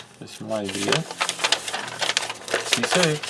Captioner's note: paper crinkling